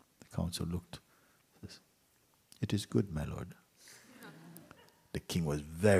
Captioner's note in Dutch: gelach